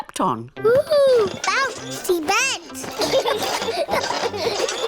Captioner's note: children laugh